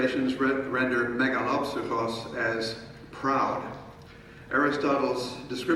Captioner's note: speaking in foreign language